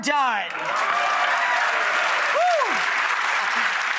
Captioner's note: audience applause